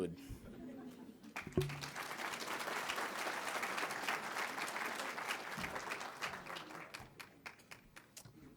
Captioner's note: laughter; applause